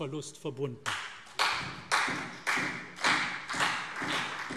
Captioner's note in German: Beifall CDU, BÜNDNIS 90/DIE GRÜNEN und SPD